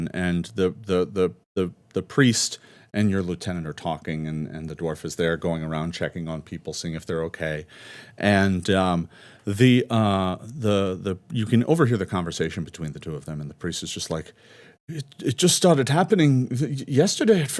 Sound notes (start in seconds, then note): none